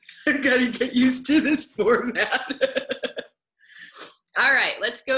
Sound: laughs

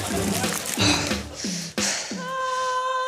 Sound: pants heavily

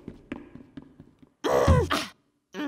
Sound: grunting

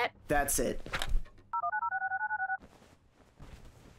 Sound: phone beeps

